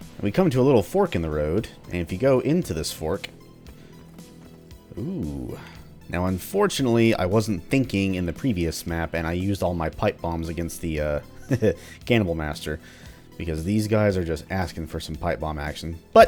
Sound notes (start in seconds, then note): 11.4 chuckles